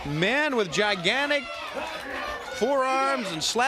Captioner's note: crowd cheering